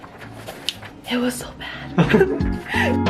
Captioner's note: laughs